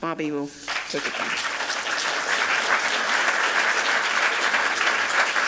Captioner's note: applause